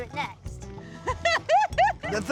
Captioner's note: laughing